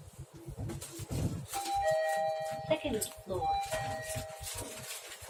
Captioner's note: chime